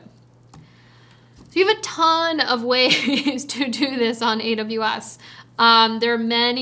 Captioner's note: chuckles